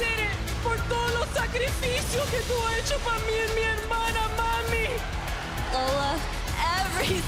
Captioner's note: foreign language